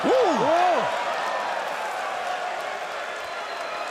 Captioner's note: crowd cheering